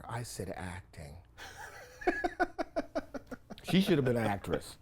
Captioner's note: laughs